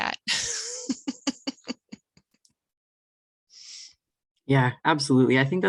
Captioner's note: laughs